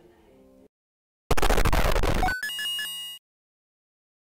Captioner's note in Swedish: spelljud